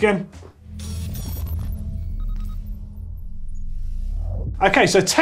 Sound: electronic beeping

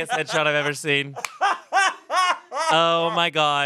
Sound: everyone laughs

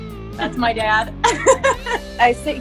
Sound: laughs

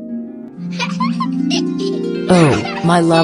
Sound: giggling

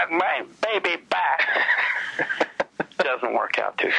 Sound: laughs

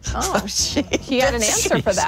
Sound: laughing

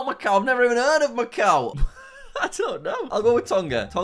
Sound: laugh

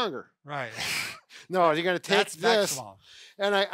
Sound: laughs

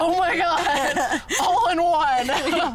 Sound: laughing

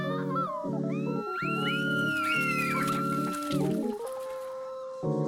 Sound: child screaming; children screaming

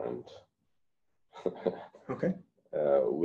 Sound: laughter

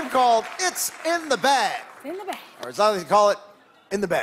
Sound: cheers and applause

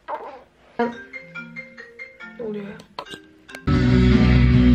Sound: phone rings

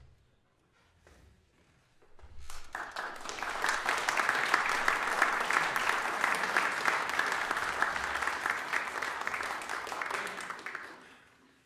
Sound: applause

